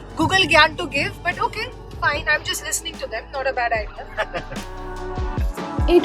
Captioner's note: laughs